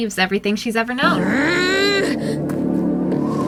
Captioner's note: Luz growls in frustration